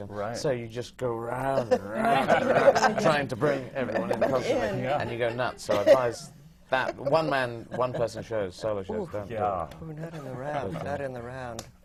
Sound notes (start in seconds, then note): 1.5 laughter from the panel